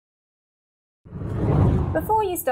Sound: scene whooshes

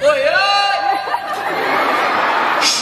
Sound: audience laughs

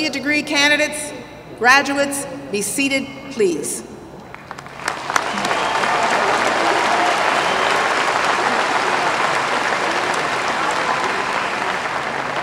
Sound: applause

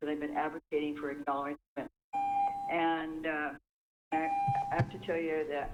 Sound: chime

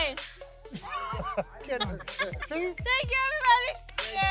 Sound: laughter

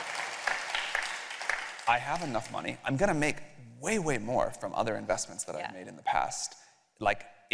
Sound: applause

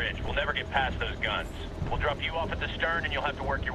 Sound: radio

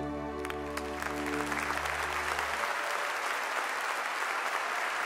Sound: audience applauding

